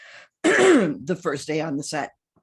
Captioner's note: clears throat